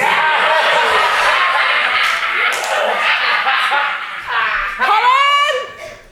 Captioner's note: Meanies laugh